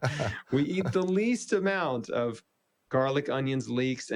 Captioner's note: laughs